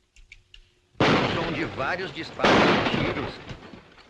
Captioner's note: gunshots